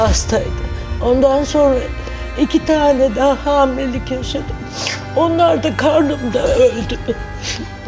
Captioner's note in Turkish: homurdanır